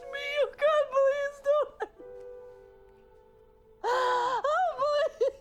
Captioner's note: crying